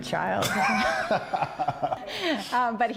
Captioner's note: laughs